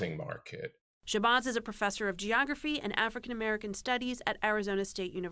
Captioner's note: voice-over